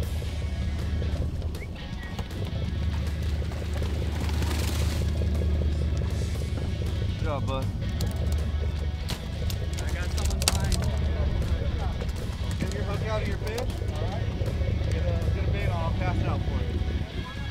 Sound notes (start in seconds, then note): 1.4 whistles